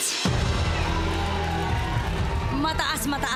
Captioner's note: crowd cheers, applauds